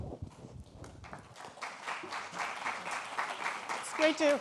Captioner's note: audience applauding